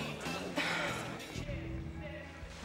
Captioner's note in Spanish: Patty suspira